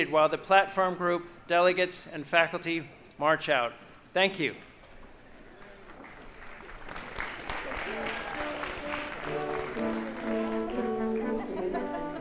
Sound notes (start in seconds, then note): 5.8 audience applauding; 7.8 upbeat processional music